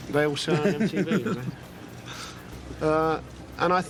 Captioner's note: laughs softly